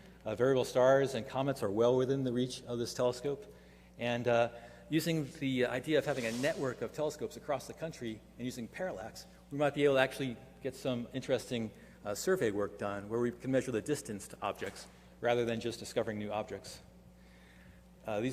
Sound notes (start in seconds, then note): none